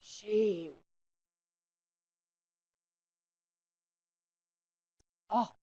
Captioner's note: silence